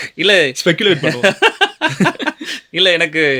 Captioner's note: laughter